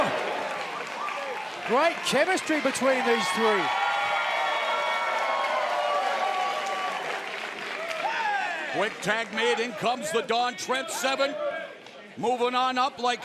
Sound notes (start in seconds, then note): 5.3 cheers and applause